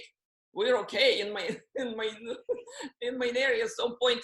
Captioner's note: laughs